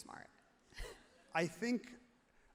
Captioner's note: laughs happily